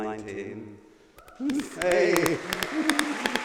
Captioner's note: applause